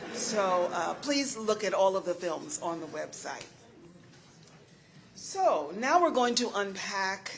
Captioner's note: laughter